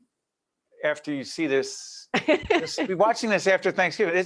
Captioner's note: laughing